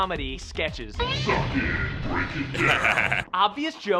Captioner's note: deep voice; laughs